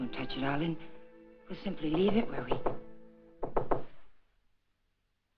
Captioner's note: knock at door